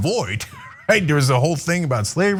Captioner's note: laugh